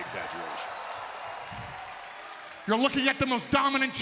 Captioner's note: crowd cheering